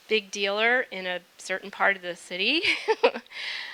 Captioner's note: laughing